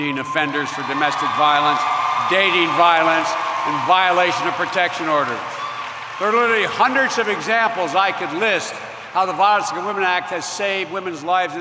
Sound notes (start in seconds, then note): 5.9 cheers